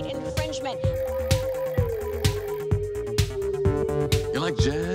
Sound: numbers ticking; disco music continues

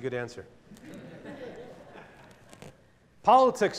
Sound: laughter

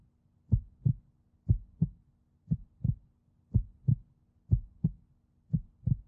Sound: heartbeat

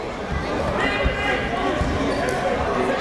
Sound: chatter

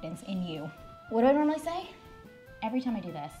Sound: speaks foreign language

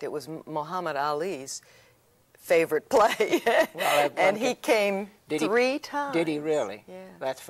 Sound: laughs

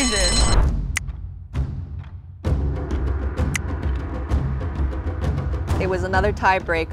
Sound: bell rings; dramatic music; photos click

